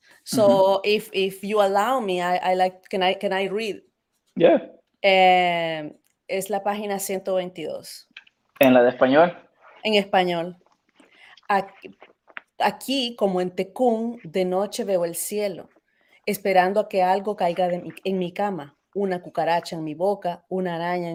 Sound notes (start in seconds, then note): 6.6 speaking in Spanish; 8.8 asking question in Spanish; 10.0 answers in Spanish; 11.8 speaking in Spanish